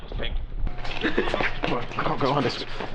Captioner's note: laughs